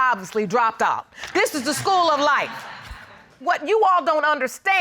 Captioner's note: audience laugh